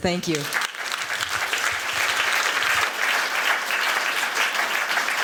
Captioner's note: applause